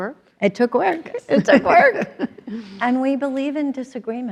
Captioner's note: they both laugh